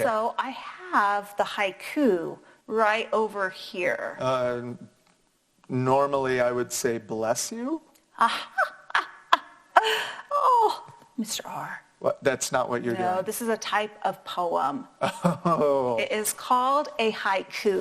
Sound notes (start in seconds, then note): 8.2 laughs; 15.0 laughs